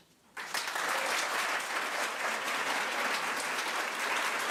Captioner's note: crowd applause